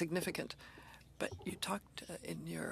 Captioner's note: speaking French